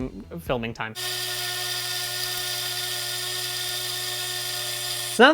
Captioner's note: grinder whirring